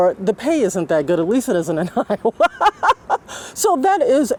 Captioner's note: laughs